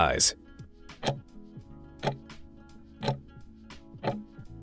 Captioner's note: timer ticking